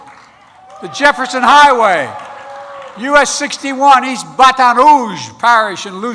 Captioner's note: applause